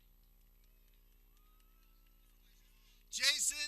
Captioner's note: people clapping